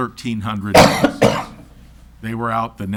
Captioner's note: coughs loudly